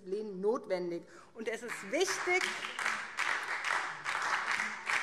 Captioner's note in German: Beifall SPD und DIE LINKE